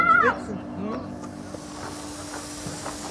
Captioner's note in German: Spritzen, Zischen